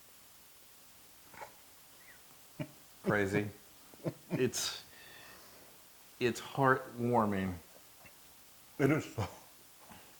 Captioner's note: laugh